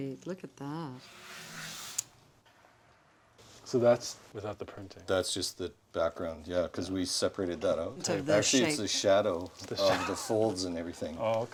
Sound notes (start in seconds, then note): 9.7 laughs